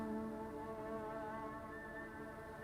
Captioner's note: none